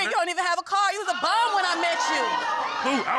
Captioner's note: audience exclaiming